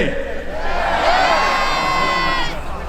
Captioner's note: crowd